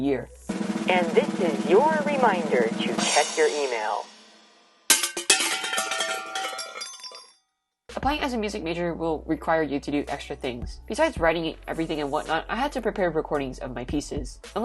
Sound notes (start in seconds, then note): 0.5 drumroll; 3.8 cymbal crash; 4.9 tins crashing